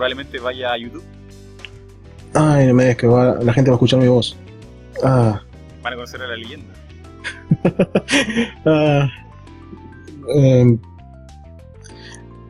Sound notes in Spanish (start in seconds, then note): 7.2 risas